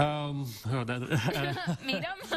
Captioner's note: chuckling